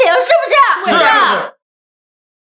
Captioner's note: crowd agreeing